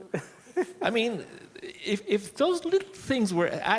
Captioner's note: laughs